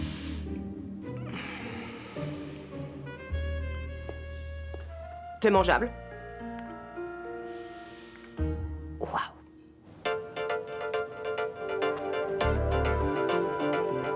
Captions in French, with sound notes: C'est comestible. (chuchotements) : Wow. (musique entraînante)